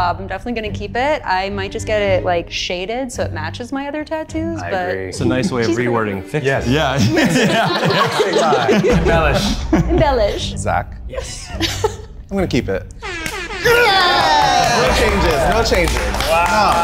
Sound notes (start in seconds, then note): 6.8 all laughing; 13.5 bullhorn blaring; 14.8 group clapping